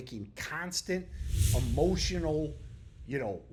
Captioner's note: text whooshing